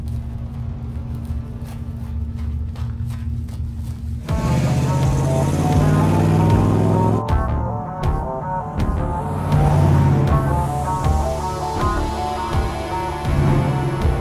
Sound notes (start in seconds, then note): 3.9 intense music; 4.2 engine revving